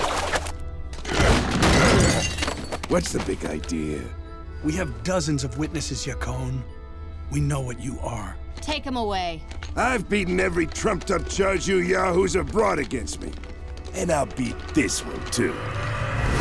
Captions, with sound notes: [groaning] What's the big idea? We have dozens of witnesses, Yakone. We know what you are. Take him away. I've beaten every trumped up charge you yahoos have brought against me and I'll beat this one, too.